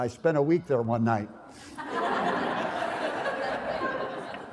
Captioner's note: laughter